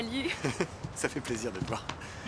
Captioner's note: chuckles